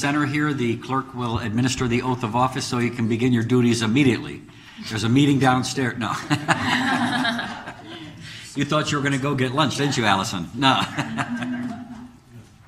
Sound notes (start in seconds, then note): 6.1 laughing